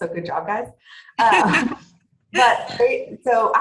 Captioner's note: laughing